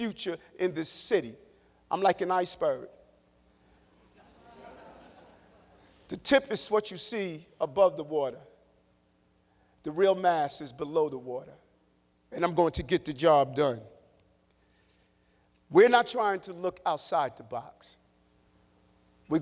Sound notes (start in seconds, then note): 8.2 laughter